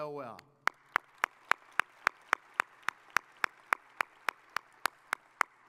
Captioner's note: audience applauding